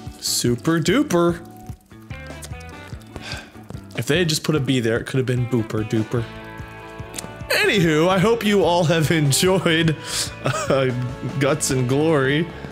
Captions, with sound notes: super duper (sigh) if they had just put a b there it could have been booper dooper anyhoo, I hope you all have enjoyed (laughing) uh, Guts and Glory